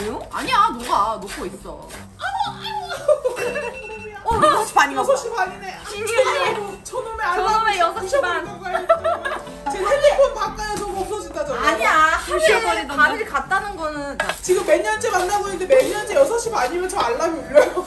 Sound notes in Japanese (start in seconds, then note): 3.4 急に鳴るアラームの音